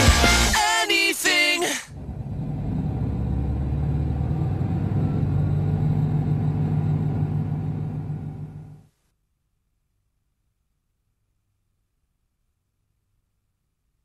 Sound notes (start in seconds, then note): 4.6 motor runs